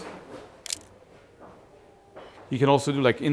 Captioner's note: camera shutter clicks